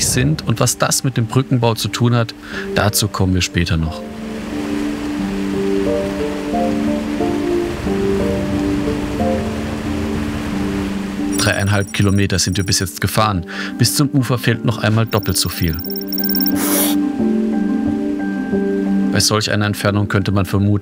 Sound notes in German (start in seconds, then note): 4.7 Wasserrauschen, belebte Musik